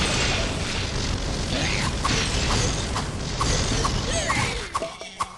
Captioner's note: boom